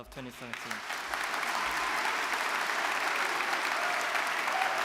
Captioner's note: audience clapping